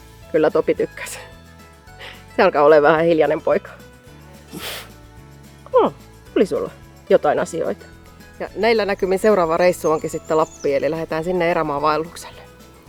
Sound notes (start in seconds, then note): 4.4 Topi huffs